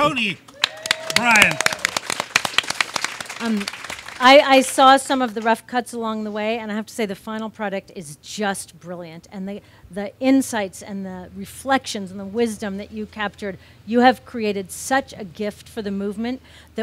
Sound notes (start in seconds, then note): 2.2 audience claps